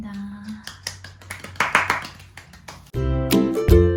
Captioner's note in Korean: 짝짝짝